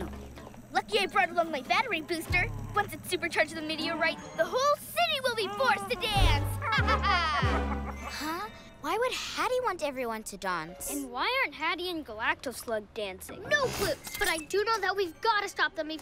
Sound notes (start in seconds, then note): 5.5 evil laugh